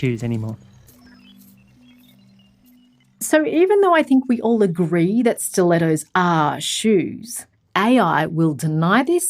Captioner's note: voiceover